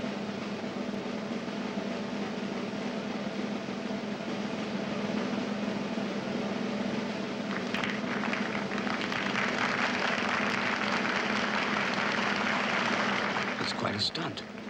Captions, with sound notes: (audience applauds) - It's quite a stunt.